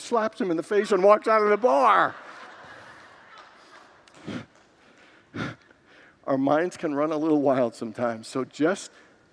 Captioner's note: congregants laugh